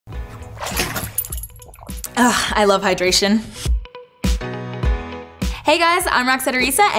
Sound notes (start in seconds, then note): 0.2 water sloshing; 3.6 lively music